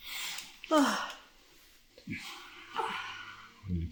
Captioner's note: Alison exhales